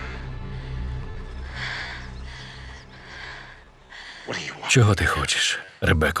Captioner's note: panting